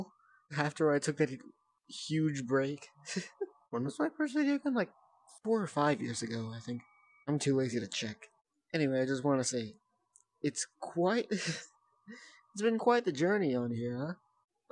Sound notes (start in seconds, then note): 11.3 nervous laugh